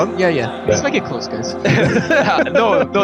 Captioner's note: laughs